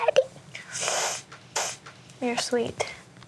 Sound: sniffles

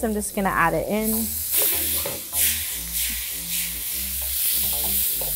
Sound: wok sizzling

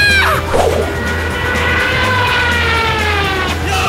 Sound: whooooooo

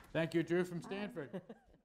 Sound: laughter

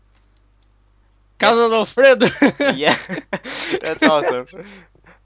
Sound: risos

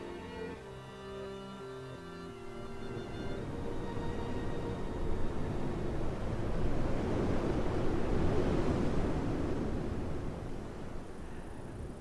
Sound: sound of a strong wind blowing

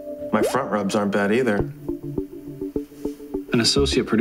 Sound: inner monologue

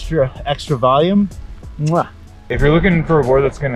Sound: kissing smack

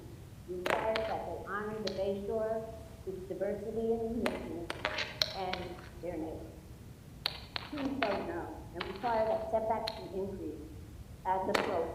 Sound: banging; interfering audio; banging

